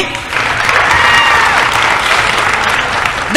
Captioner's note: applause